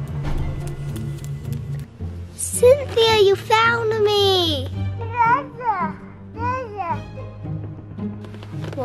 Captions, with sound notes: - Cynthia, you found me. (baby babbling)